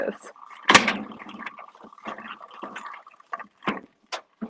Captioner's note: shelf clanks